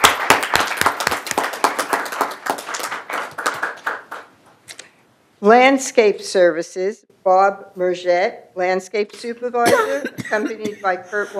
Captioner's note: applause